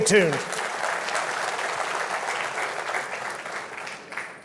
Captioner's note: audience claps